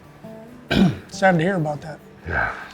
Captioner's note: clears throat